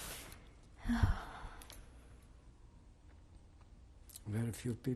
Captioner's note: sighs